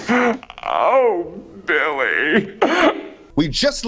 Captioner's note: sobbing